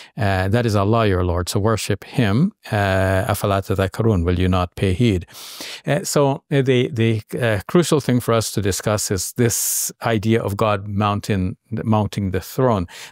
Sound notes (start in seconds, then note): 3.4 talks Arabic